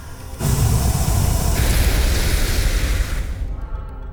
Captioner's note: ignition sound